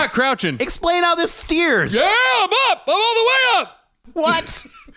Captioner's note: shouting